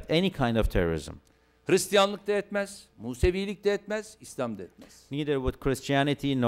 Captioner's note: non-english speech